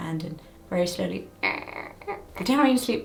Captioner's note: imitating zipper